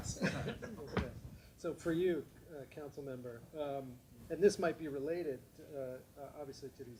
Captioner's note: audience laughing; speaking without microphone